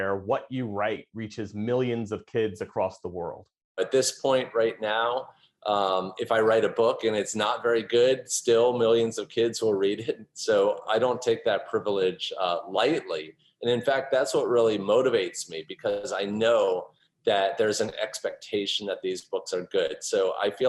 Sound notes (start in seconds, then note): 10.1 laughter